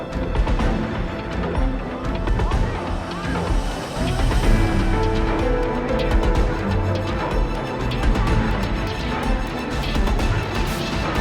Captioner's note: crowd cheers